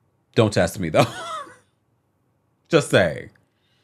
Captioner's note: quiet laughing